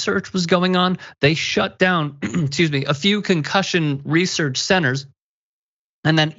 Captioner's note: cough